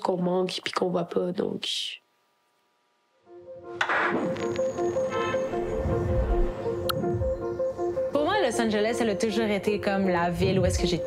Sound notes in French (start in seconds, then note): 5.0 coup de klaxon; 7.0 chant des oiseaux